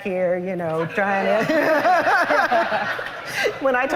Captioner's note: laughter